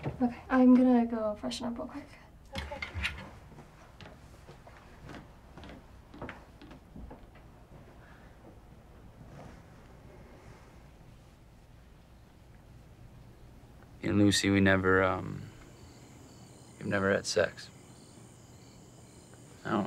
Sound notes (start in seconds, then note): 3.2 footsteps retreating; 18.0 crickets chirping